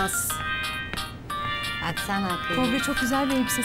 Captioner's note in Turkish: telefon sesi